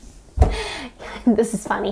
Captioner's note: wierd gasp